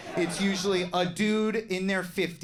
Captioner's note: audience laughs